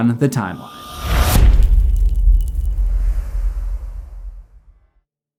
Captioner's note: impact